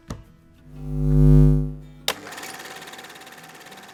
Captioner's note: light bulb humming; projector clicking